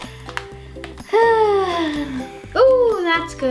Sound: sighs

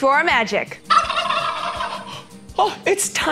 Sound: turkey gobbling

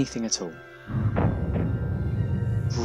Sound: Tardis makes a noise of confusion

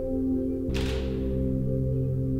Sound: shutter clicks

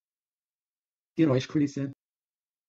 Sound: fast Pronunciation

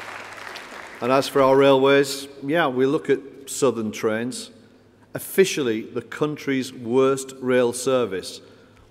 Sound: applause

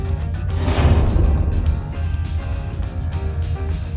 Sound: r1 docking sound

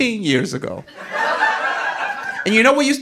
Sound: audience laughing

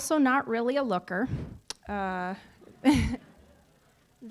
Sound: audience laughing

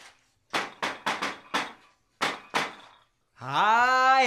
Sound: sound knocking

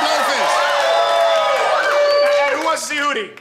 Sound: crowd cheering

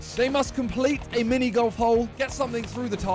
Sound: none

